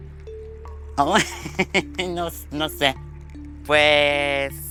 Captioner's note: laughs in blonde